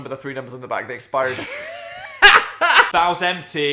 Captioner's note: Dan laughing